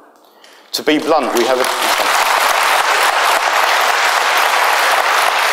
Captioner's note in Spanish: aplausos